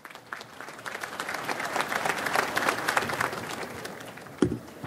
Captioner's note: audience applauds